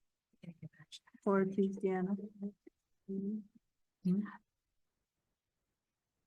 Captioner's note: speaks faintly